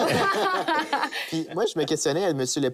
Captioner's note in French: rires